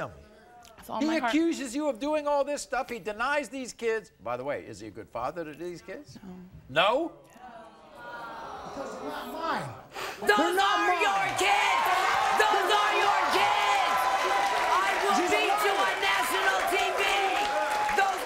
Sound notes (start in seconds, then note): 8.4 crowd groans